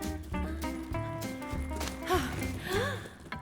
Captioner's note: relieved sigh and chuckle